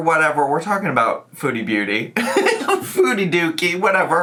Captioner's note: laughs